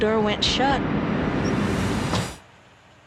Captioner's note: door shuts; silence